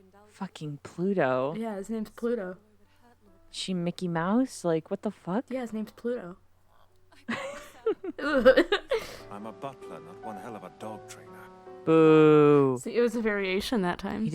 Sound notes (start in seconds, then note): 7.2 both giggling